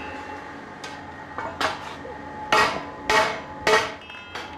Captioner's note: even metal hammering